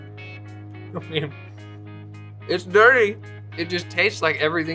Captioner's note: laughs